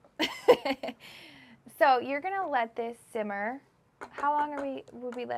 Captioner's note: laughs